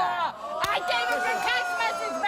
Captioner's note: audience gasps